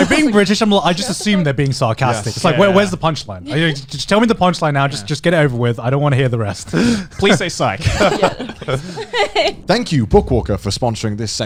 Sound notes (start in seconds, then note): 7.7 laughing